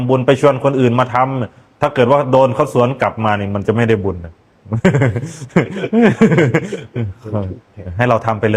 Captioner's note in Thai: เสียงหัวเราะ